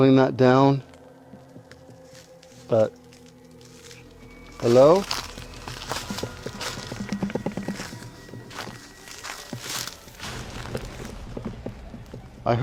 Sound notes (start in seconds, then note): 3.1 crackling sound; 3.1 dramatic music; 5.4 crackling sound; 5.4 dramatic music